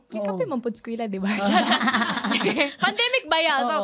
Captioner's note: laughter